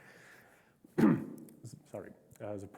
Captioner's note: clears throat